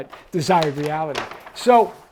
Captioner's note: page turns